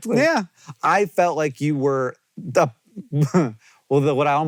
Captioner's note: chuckles